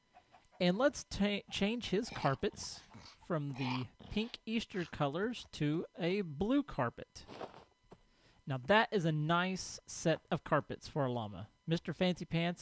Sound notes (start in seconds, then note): 0.1 chickens clucking; 3.4 llama snorts